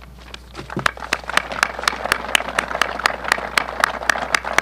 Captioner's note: applause